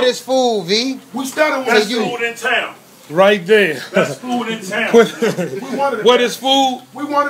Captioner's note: chuckles